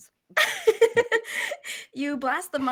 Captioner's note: laughs